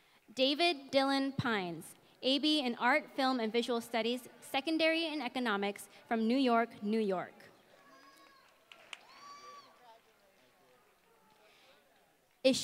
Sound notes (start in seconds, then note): 8.1 applause